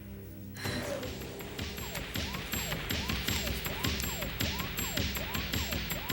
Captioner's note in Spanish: sirene tocando